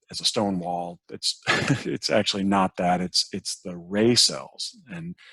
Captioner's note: laughs